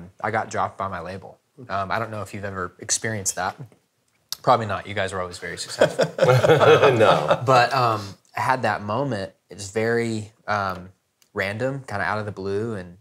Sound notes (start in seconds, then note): 5.7 laughing